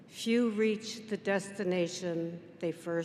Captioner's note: none